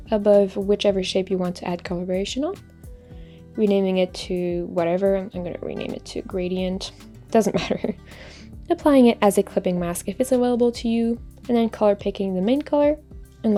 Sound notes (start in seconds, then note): 7.4 laughs